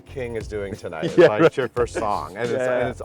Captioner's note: laughs